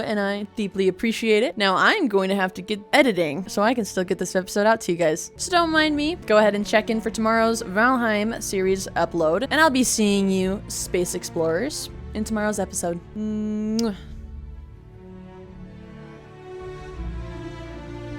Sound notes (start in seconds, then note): 13.6 kiss